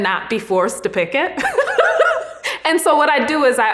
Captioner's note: laughs